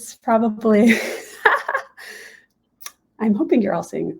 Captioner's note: laughing